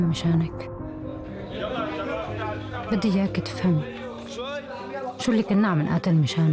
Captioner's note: men yelling; woman speaking in foreign language